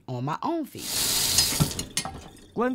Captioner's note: running water